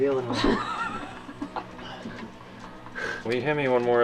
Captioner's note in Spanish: riendo